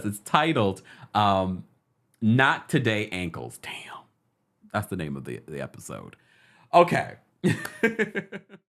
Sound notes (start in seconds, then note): 7.5 laughs